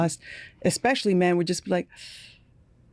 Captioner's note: inhaling sharply